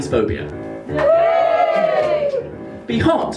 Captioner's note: rapturous applause